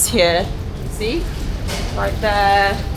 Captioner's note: door shuts